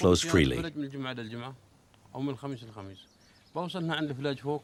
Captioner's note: Arabic spoken audio